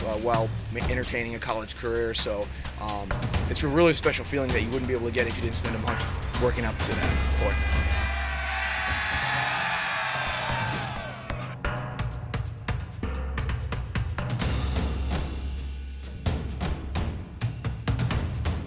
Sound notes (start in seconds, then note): 6.9 cheering